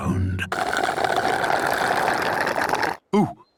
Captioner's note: slurping